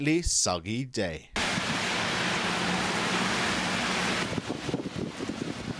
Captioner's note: heavy rain noise